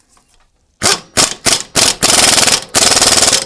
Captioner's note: impact wrench